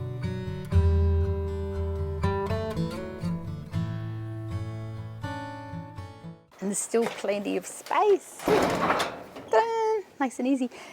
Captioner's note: door closing